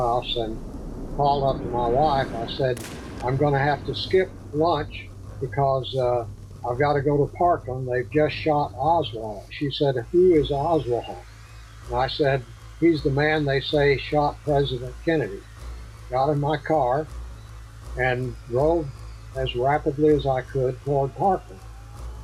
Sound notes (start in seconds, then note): 16.8 crowd yelling